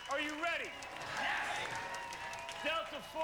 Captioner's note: cheers